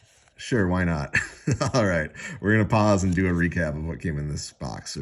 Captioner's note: chuckles